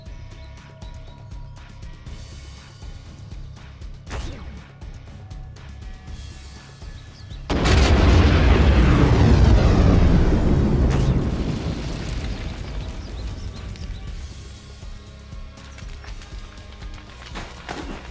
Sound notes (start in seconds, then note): 7.5 explosion